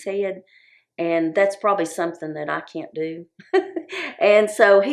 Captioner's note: chuckles